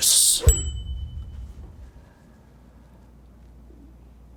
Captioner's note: bell dinging